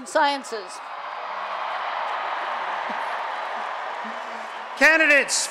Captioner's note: applause and Cheering